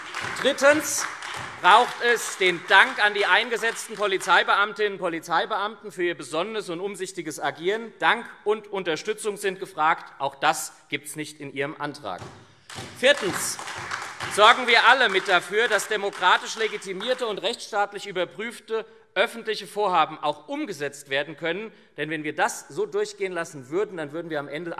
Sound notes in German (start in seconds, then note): 12.6 Beifall SPD, AfD und Freie Demokraten